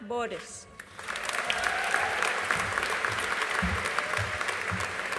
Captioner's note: audience applauding